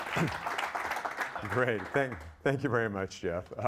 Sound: applause; chuckling

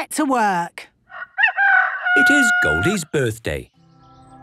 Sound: rooster crowing

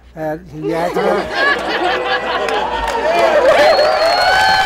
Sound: laughing and applauding

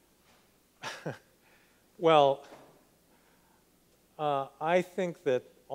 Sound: laughs

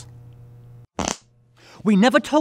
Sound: farts

